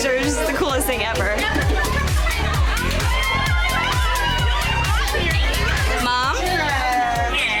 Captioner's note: upbeat music; women cheering